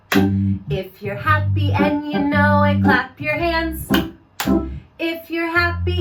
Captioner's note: clap, clap; clap, clap